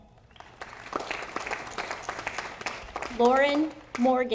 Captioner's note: audience applauding